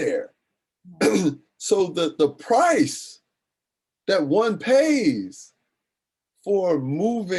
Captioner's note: clears throat